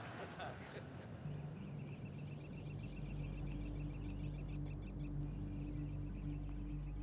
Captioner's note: audience laughter fading; birds twittering